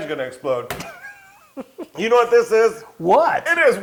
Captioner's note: laugh